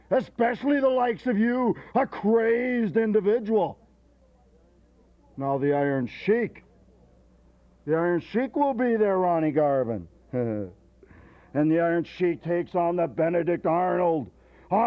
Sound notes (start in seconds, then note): 10.3 laughs